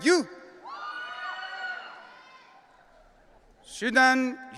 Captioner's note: audience cheering